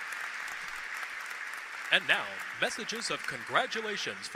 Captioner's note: applause